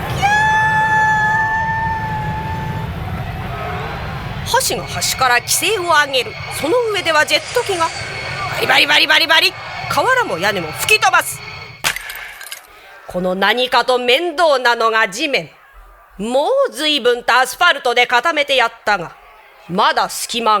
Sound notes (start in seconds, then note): 10.7 sound of destroy